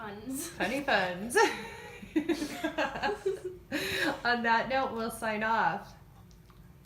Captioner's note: laughing